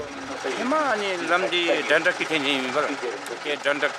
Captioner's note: dzongkha spoken audio